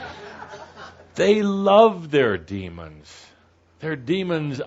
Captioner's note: laughter